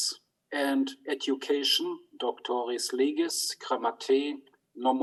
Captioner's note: speaks in foreign language